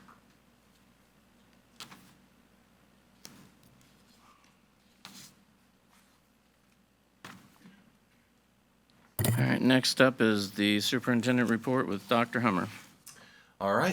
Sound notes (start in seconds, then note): 4.8 paper rustles